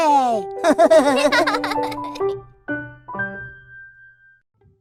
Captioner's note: animals laugh